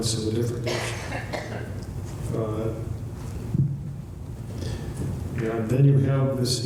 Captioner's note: speech drown out by audience member coughing